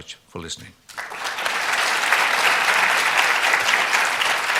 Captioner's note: applause